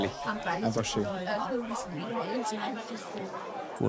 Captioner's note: loud babble of voices